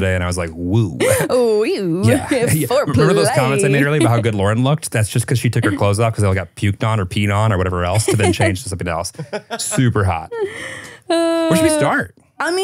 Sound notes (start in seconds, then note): 10.4 laughing